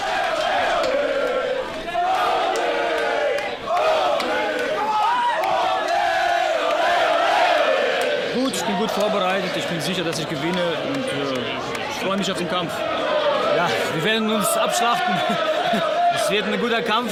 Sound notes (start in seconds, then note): 0.1 crowd chanting "Ole, Ole, Ole"; 8.3 speaking German